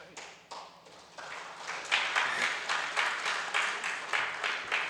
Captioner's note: audience applauds